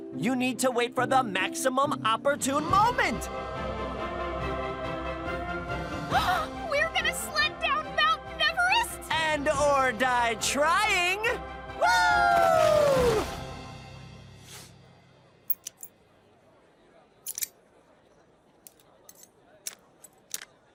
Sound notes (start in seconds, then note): 5.8 gasps